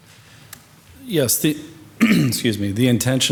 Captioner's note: clears throat